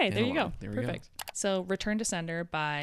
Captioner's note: computer mouse clicking